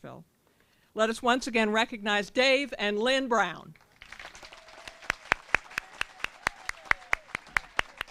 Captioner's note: applause & cheering